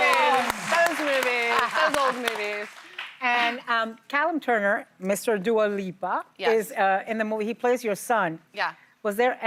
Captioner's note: cheers and applause